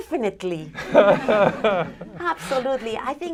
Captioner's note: laughter